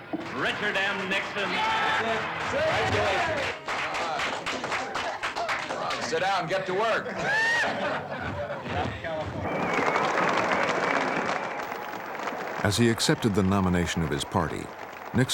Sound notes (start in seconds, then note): 0.3 cheering; 9.4 cheers and applause